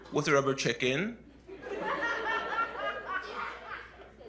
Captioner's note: laughter